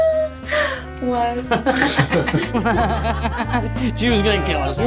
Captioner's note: laughter